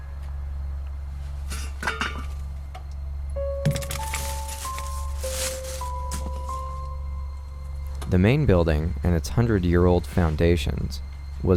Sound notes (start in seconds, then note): 3.6 objects clanking